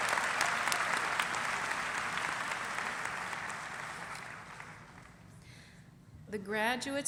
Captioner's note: applause